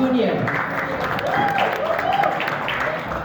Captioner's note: applause, cheers